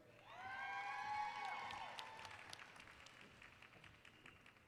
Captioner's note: applause